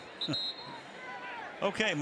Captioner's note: whistle